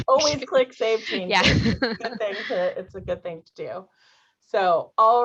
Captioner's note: laughter